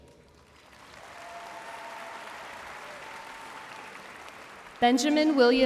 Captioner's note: audience cheering and applauding